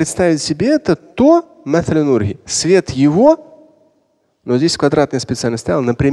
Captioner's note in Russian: говорит на арабском